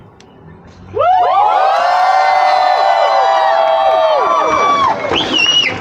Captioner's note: applause